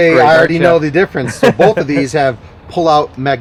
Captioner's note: laughs